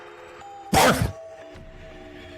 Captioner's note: barf